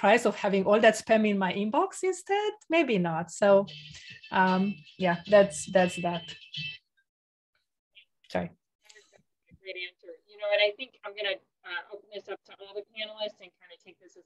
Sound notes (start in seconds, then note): 3.6 phone rings